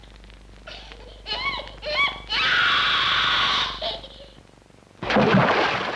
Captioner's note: child crying loudly; water splash